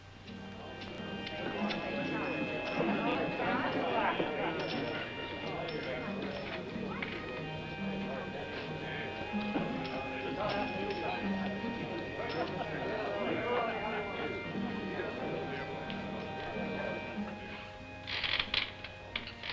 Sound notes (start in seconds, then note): 0.4 mellow music; 1.6 men clamoring